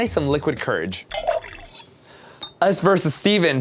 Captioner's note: pouring; knife slice